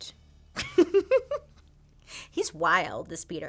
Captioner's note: laughs